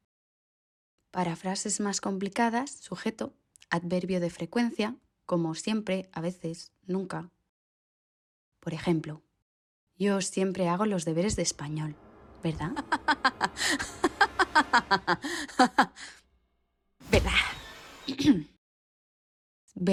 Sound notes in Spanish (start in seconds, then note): 12.6 Risa malvada